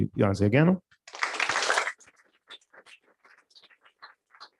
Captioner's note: applause